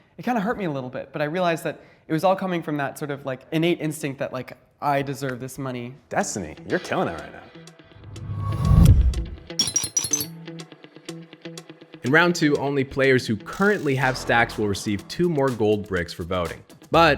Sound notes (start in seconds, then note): 8.1 gentle music; 9.6 bricks clinking